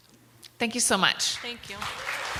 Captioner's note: applause